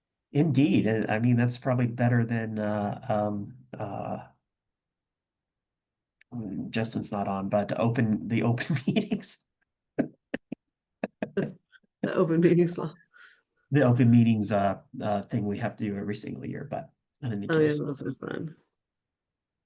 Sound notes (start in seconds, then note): 9.7 laughs